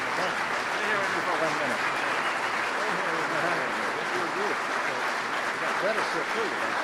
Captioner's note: applause